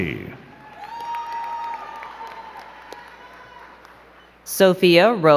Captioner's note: crowd cheering and clapping